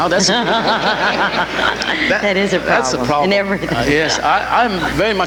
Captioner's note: laughs